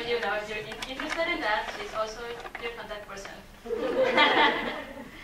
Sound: laughs

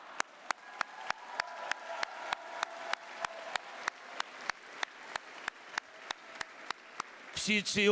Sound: clapping

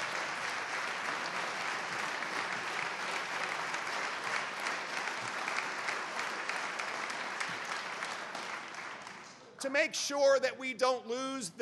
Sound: applause

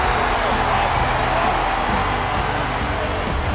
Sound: cheering

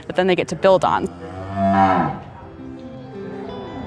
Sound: cow mooing

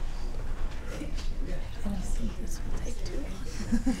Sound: chatter; whispering; laughter

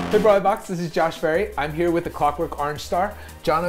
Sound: none

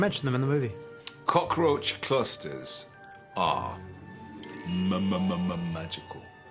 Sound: magical chime

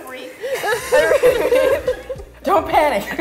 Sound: all laugh

